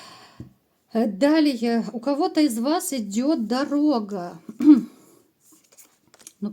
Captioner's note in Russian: откашливается